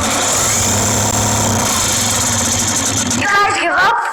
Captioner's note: machine shooting noise